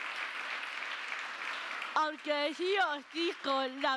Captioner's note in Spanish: Aplausos